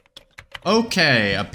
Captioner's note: typing noises